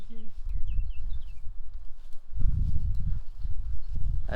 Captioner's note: birds chirping